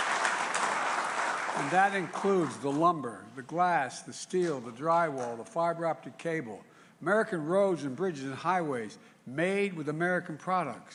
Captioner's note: applause